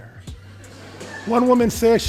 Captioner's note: audience laughs